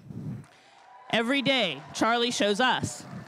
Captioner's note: crowd cheering and applauding